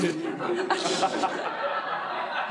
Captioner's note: laughter